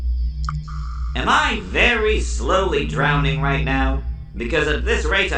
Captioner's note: water dripping